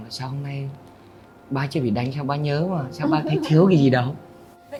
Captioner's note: Tien: laughing